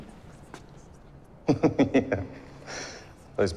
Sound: laughs

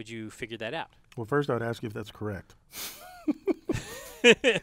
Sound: laugh

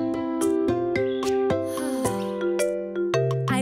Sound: sighing

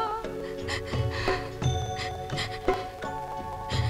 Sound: sobbing

